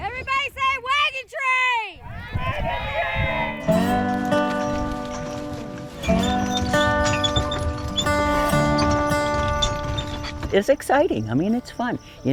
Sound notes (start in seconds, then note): 2.5 wagon squeaking; 2.7 gentle country music